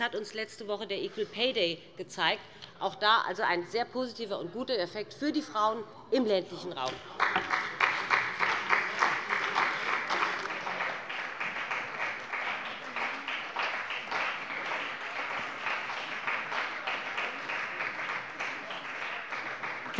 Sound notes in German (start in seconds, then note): 6.9 Beifall bei dem BÜNDNIS 90/DIE GRÜNEN und der CDU